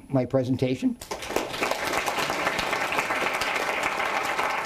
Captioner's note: audience applauding